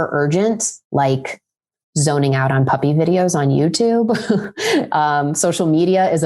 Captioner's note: laughs